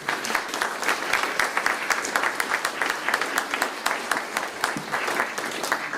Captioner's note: applause